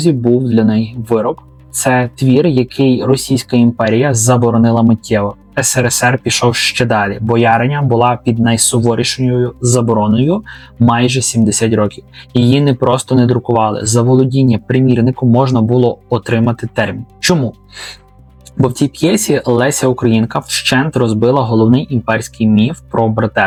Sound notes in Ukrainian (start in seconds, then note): 17.7 сопіння